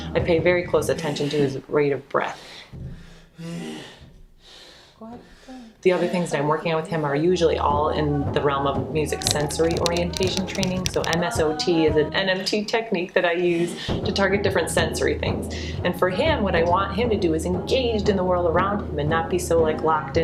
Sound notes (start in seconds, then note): 3.6 breathes loudly